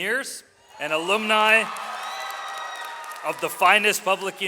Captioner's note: audience cheering